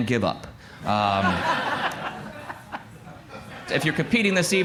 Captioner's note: laughter